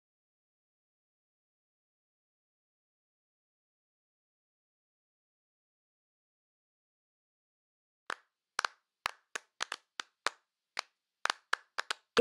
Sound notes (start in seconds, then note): 9.0 hands clapping